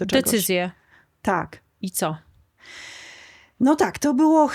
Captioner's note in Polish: wciągnięcie powietrza